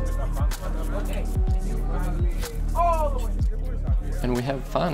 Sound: spirited chatter

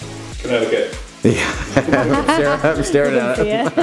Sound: laughing

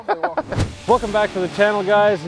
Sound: laughs

